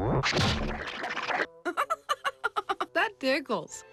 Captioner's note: laughing